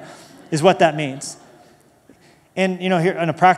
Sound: laughter

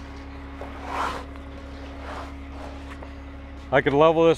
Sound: wood shuffling

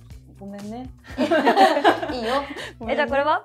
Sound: laughs

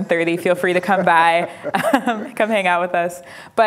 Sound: laughs

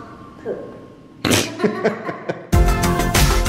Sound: both laughing; upbeat music

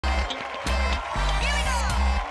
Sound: cheers and applause

